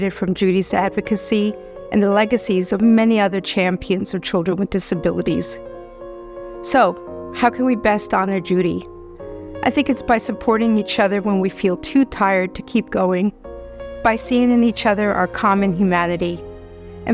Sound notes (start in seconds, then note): none